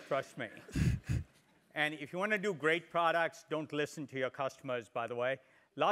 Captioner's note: laugh